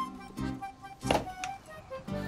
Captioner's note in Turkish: Kova koyma sesi